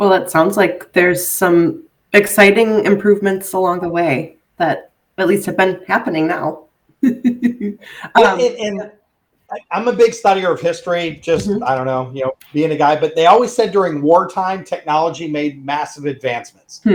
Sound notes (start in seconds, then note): 6.8 laughing